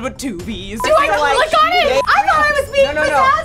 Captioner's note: beep